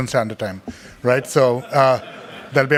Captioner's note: crowd laughing